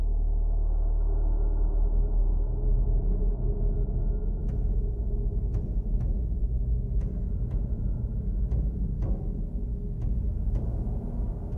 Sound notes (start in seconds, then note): 2.0 low drone sound; 8.1 slow pulsing drum rhythm